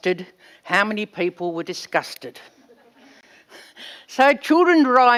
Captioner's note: laughs